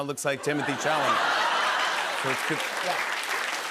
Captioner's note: laughter; applause